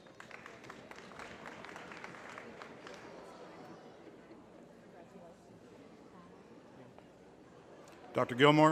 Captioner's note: applause